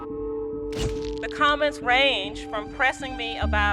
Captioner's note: shutter clicks